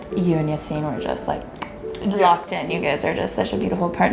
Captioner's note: pops mouth